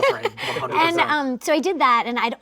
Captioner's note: laughing